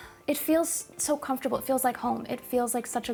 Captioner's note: contented sigh